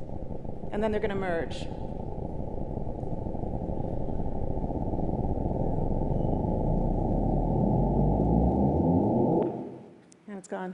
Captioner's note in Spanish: Golpeteo